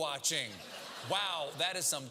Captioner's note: laugh